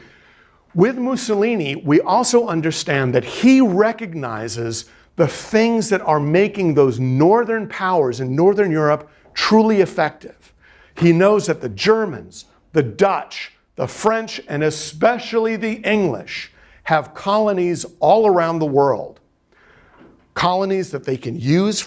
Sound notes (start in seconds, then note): none